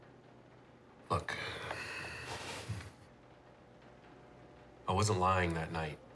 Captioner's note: sighs